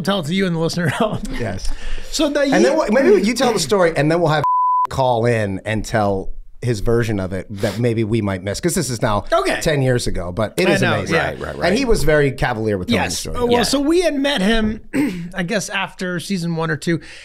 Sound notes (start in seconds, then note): 4.4 beep